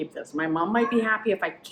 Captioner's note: cat meowing